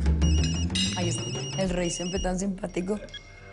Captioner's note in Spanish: Suena el celular